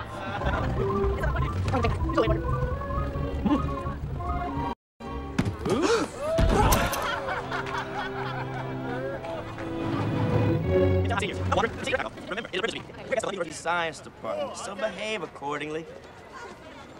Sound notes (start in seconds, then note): 5.8 crowd laughs